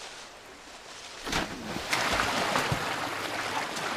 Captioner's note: water splashing